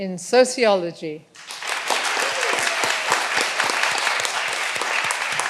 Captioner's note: all applauding